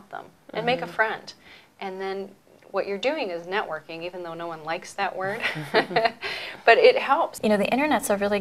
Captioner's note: laughter